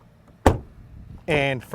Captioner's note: door slams